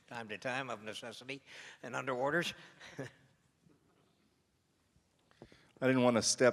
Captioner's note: laughs